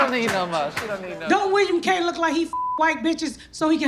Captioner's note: beep